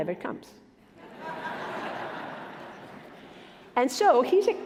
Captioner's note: laughing